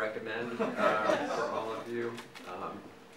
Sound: audience laughing

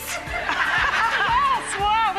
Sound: laughing

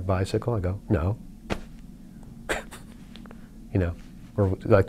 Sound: chuckle

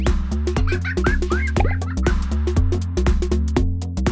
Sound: laughter

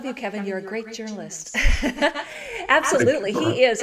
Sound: laughs

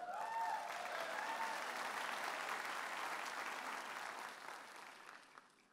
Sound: audience applauding and cheering

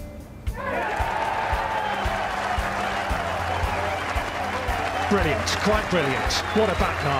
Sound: crowd cheers

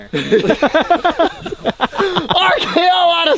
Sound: laughter

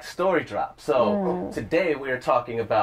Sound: sounds of agreement

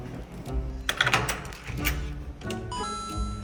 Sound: the sound of opening a door

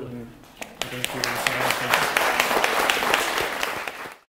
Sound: applause

